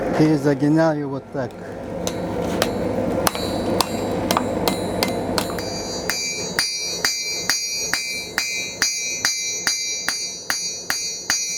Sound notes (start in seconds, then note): 8.1 bell